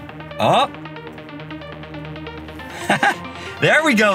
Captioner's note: chuckling